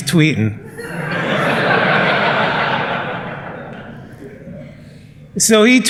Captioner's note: laughter